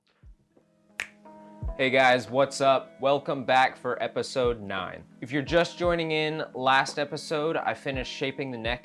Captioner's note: snaps